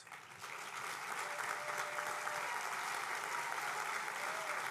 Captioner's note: applause